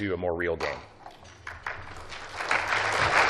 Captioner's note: applause